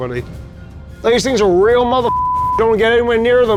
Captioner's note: beep